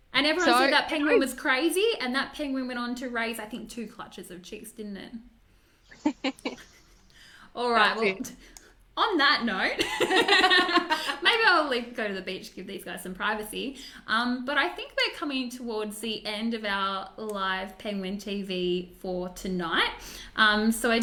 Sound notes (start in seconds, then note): 5.9 laughs; 9.8 laugh